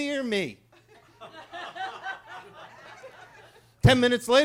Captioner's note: attendees laughing